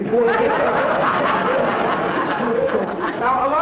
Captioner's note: audience laughter